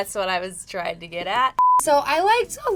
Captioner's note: beep